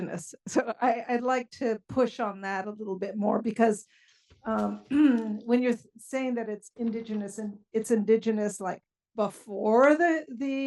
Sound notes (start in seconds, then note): 4.2 cough